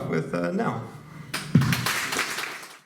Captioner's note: applause